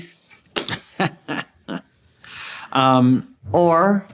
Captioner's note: laughs